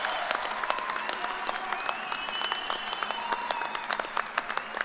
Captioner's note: applause